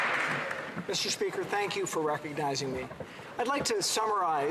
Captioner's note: cheering and Applause